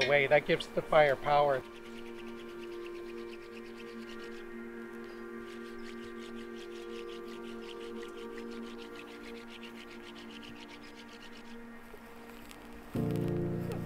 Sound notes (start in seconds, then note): 1.9 ominous music; 4.9 hands rubbing